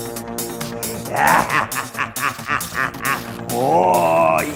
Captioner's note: maniacal laughing